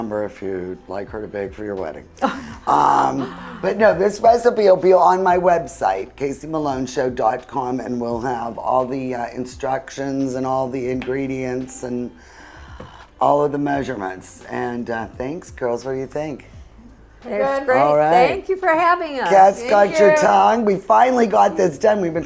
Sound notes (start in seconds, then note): 2.2 chuckles